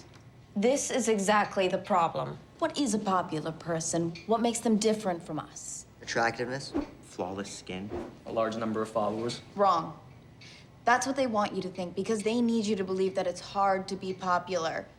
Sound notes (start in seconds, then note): none